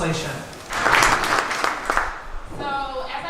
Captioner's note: applause